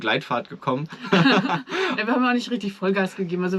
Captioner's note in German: beide lachen